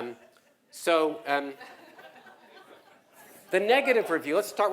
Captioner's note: laugh